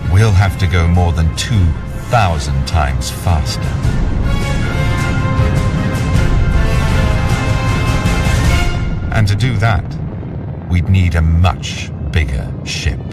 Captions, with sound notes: we'll have to go more than 2,000 times faster. (dramatic music continues) (rocket roaring) And to do that, we'd need a much bigger ship.